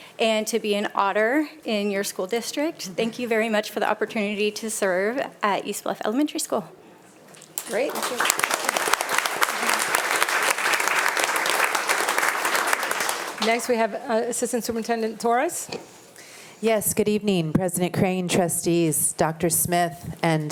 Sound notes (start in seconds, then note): 7.5 attendees applauding